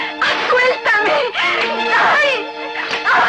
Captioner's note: screams